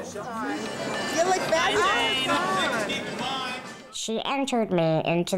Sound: background chattering

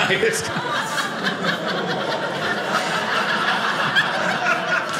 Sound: audience laughing

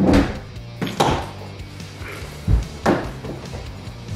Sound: door slams; shoes crash

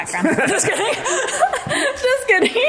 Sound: laughs

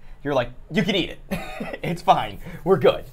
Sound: laughs

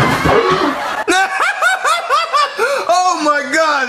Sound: Bowser laughs

